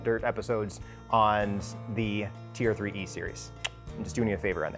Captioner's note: tongue clicking